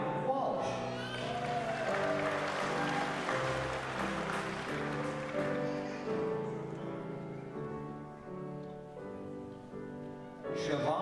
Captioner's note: applause